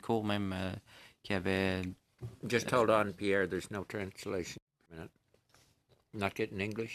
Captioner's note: speaking in French